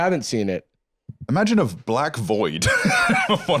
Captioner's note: laughs